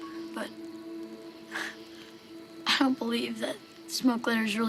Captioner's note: scoffs